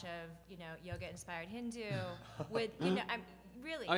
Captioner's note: laughs